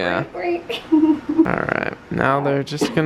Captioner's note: giggles